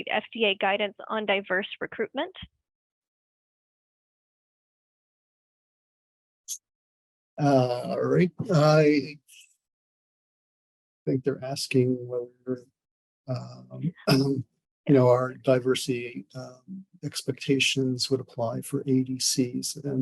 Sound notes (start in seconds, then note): 13.3 clears throat